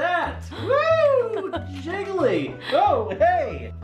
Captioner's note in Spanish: risa